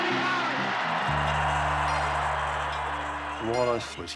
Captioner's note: cheering